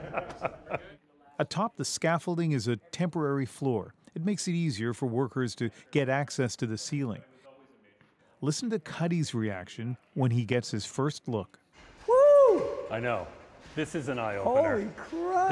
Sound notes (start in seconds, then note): 0.0 laughter